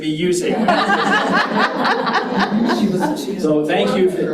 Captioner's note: audience laughs